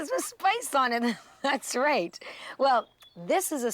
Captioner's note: chuckling